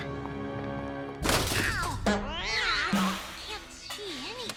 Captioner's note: cat yowls